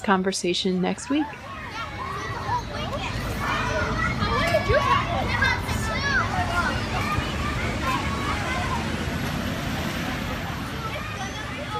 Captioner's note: Sounds of neighborhood playground and bus passing in Queens fade out